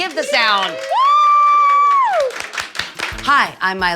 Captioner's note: people cheering